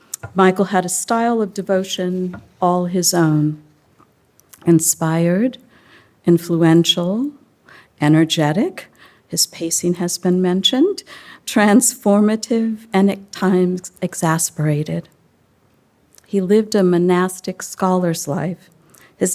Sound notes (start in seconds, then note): none